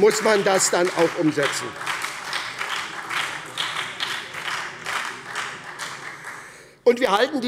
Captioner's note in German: Beifall bei der SPD und der FDP